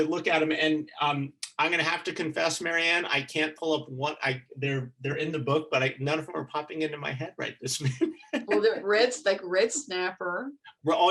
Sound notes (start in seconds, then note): 8.1 chuckling